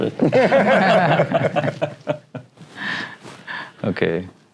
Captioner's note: laughing